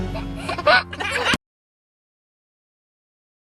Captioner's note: giggling